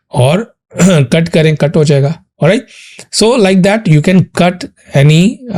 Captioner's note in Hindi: गला साफ़ करने की आवाज़